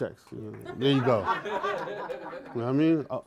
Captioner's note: laughter